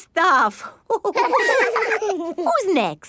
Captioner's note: all laughing